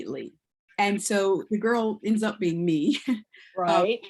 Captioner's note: chuckles